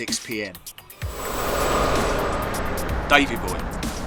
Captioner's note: wind whooshing